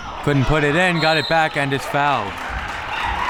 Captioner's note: whistle